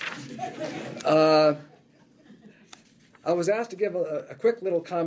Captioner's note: laughter